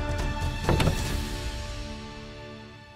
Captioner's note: door opens